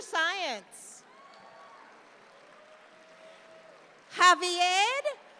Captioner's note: audience applauds